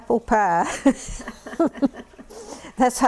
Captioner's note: laughter